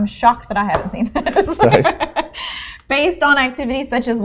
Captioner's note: laughing